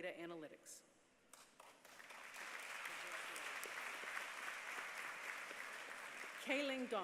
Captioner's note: applause